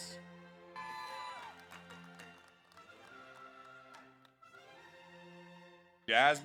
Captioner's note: audience applauds; audience cheers